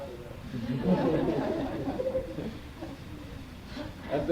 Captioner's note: laughter